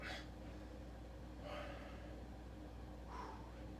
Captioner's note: breaths